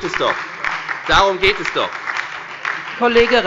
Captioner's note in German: Beifall bei der FDP, der SPD und der LINKEN